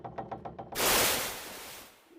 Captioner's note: splash